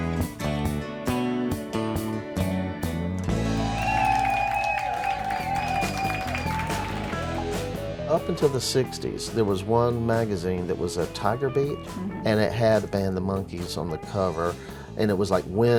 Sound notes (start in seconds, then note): 0.1 upbeat music; 3.4 crowd cheering